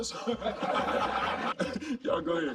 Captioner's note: laughing